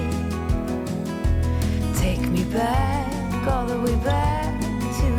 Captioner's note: simmering